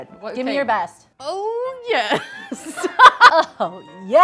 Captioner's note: laughs